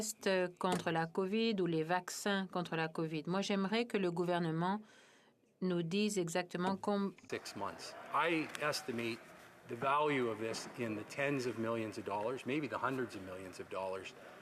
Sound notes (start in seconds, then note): 4.3 speaking French